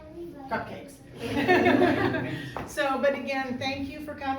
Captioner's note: host mom laughs; speaks faintly